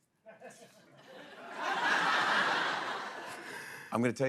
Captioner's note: laughter